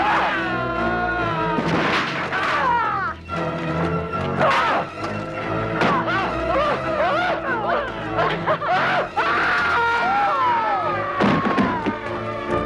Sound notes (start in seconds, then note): 0.0 guard screaming; 0.1 Hundra grunts; 2.5 Hundra grunting; 6.3 guard whimpering; 8.7 guard screaming